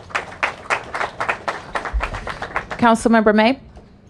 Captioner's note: applause